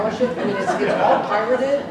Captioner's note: laughter